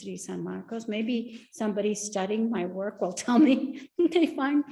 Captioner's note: laughs